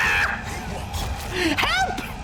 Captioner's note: high-pitched scream; monster grunts